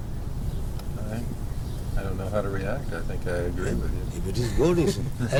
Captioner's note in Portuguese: risadas